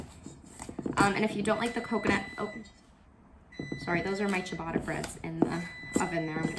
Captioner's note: oven timer going off